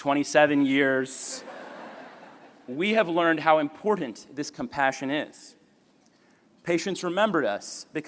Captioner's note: laughter